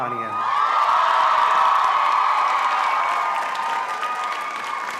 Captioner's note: all applauding and cheering